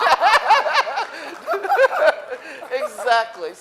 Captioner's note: laughing